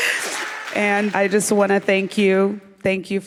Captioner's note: applause